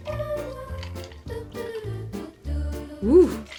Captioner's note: ice clinks; pours liquid